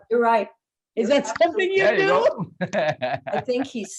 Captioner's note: laughing